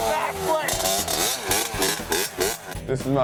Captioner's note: dirt bike rumbling